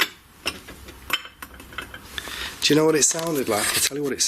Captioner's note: glass clinks